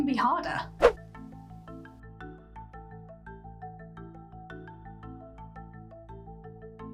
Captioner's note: lively music; screen whooshing